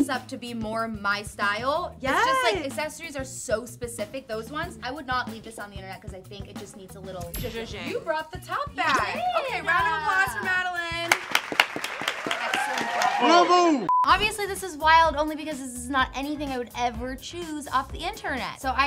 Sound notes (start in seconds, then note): 10.4 all clap; 13.8 beep